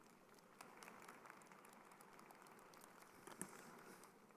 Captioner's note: crowd applauding